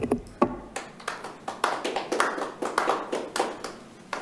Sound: audience clapping

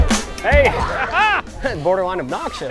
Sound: laughs

